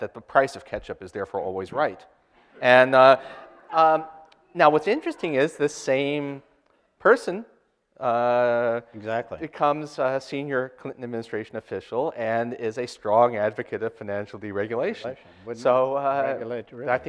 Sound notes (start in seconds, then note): 2.8 audience laughter